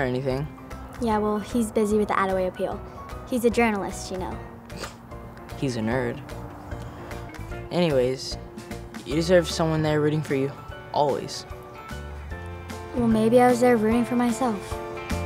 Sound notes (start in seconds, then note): 4.7 scoffs